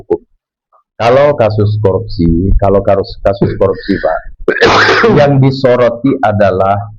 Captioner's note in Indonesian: batuk